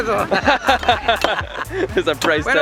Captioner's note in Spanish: risa